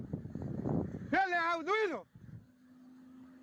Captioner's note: holidaymaker yells in foreign language